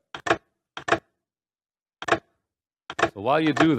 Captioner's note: mechanical clacking